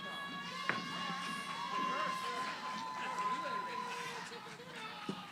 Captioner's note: cheering